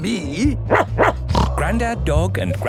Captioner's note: barking, snorting